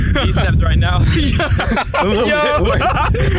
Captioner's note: laughing